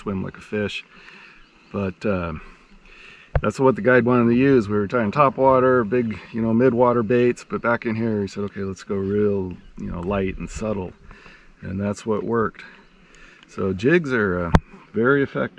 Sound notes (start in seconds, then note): none